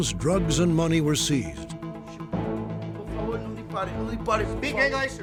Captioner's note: speaking spanish